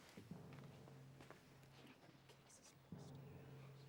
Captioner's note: whispering